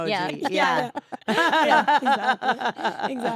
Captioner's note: laugh